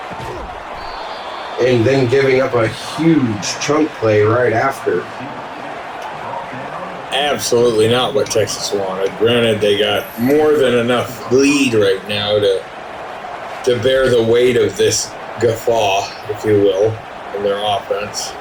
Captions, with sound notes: [Crowd Noises] And then giving up a huge chunk play right after. [Crowd Noises] Absolutely not what Texas wanted. Granted, they got more than enough lead right now to bear the weight of this gaffaw, if you will, in their offense.